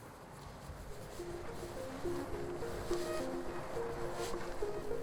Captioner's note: wind blowing